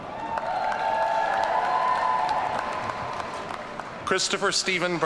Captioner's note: audience cheering